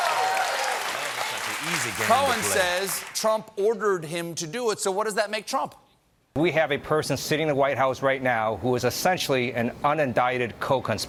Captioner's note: cheers and applause